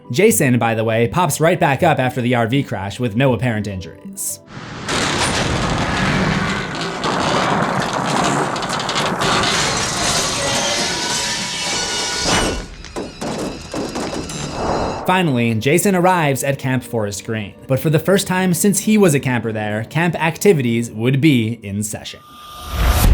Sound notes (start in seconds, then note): 4.5 van crashes; 22.9 impact